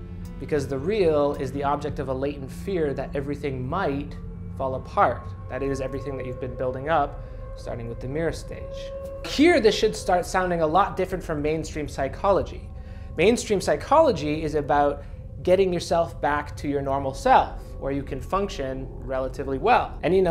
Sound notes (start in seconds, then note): none